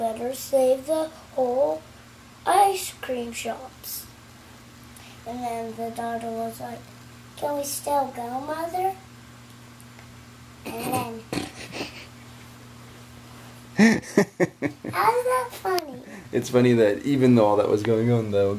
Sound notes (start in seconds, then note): 13.7 dad laughing